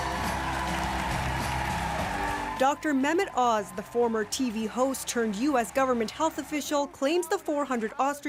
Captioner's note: cheers and Applause